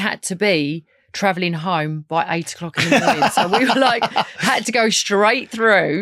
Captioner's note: lauging